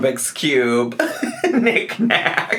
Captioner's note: laughs